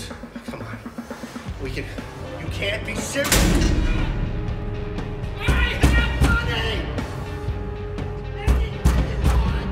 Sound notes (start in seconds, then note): 2.9 intense music; 3.2 door slamming; 5.2 banging